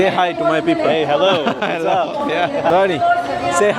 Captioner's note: laugh